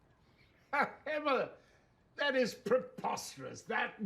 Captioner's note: laughs